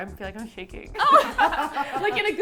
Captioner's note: everyone laughs